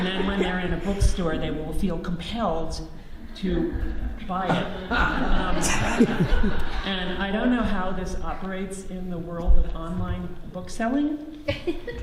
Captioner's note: audience laughs